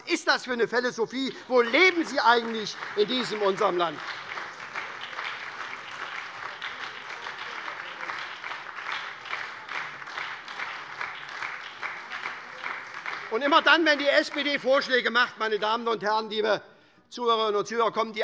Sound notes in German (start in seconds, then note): 4.5 Beifall bei der SPD und der LINKEN - Zurufe von der CDU